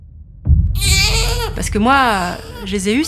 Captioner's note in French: Pleurs